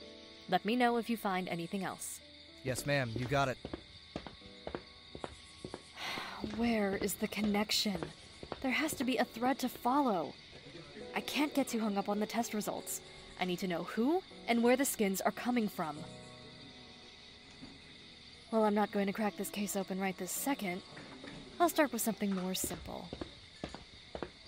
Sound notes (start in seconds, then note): 6.0 sigh